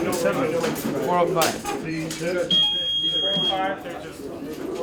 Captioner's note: electronic beeping